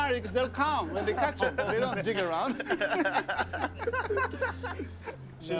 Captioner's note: laughter